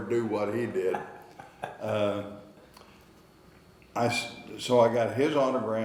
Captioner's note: interviewer laughing